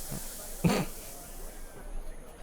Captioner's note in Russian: Кхм!